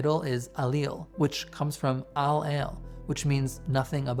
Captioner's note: host speaking in Hebrew